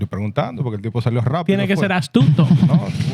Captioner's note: speaking In Foreign Language